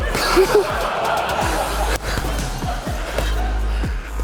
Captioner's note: teammates laugh